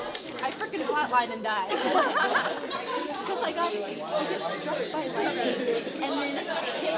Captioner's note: laughter